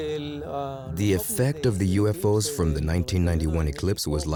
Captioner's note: in Spanish